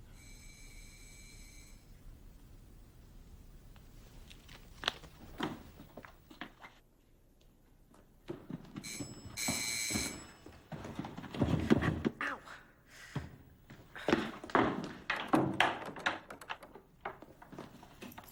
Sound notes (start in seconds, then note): 0.1 doorbell buzzes; 9.3 doorbell buzzes; 15.1 doorknob rattles